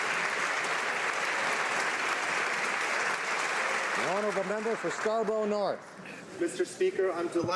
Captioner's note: applause